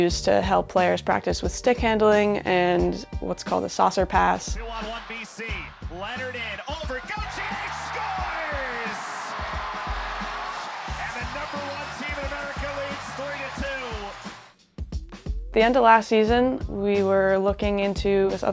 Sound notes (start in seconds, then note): 8.5 crowd cheering; 8.5 horn blaring